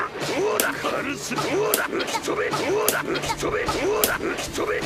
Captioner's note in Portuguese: sons do jogo